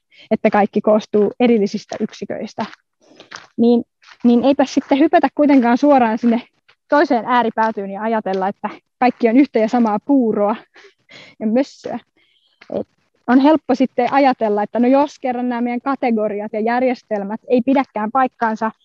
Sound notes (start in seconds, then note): 12.5 laughs